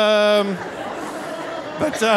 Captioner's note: audience laughing